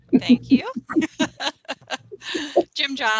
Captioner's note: laughing